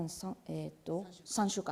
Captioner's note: speaking japanese